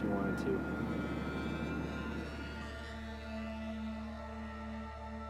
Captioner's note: UAV buzzing